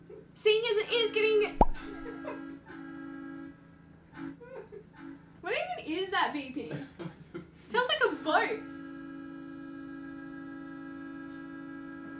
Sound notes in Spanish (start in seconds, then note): 4.3 risa al fondo; 6.6 risa